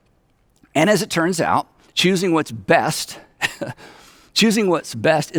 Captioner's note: chuckles